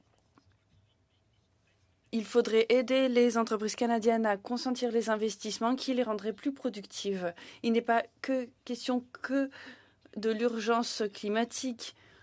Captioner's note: speaking in French